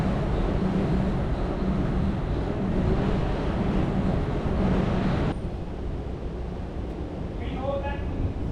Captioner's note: wind blowing